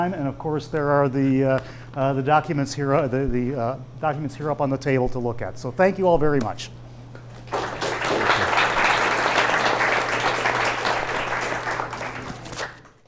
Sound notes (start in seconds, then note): 7.4 audience applauding